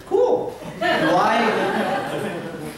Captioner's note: laughter